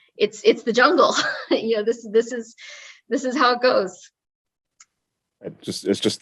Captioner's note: laugh